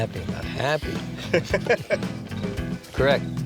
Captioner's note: laughs